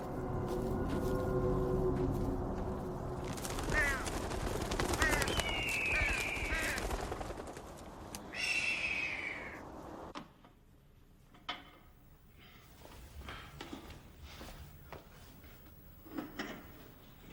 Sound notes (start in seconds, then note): 0.0 foreboding music playing; 0.0 footsteps crunch; 3.4 crows caw; 4.9 birds screech; 10.3 weights clang; 13.4 Matthew breathing heavily